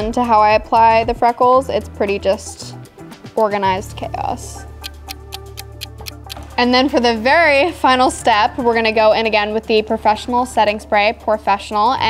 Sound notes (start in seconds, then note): 4.6 clock ticking